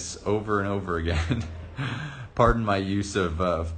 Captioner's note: chuckles